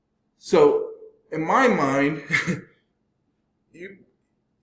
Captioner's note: laughs